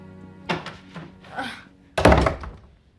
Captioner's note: SlGHS